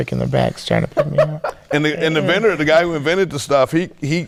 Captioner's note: laughing